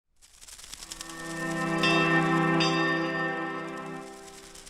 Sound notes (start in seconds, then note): 0.0 paper rustling; 0.8 mesmerizing music; 1.6 bell dinging